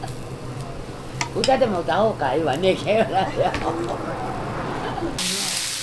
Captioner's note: laugh